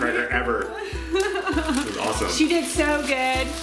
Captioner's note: mother laughs